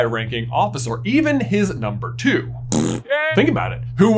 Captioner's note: pffffflt